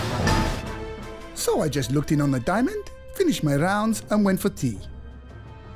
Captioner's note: voice over